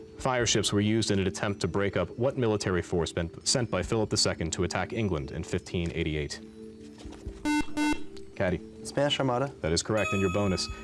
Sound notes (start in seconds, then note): 7.4 buzzer